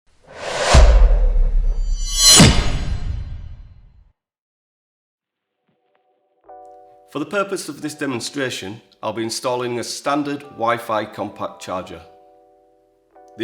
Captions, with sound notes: (logo whooshing) - For the purpose of this demonstration, I'll be installing a standard wifi compact charger.